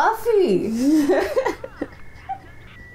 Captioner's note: laughter